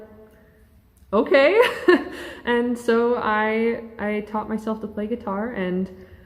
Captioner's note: laughs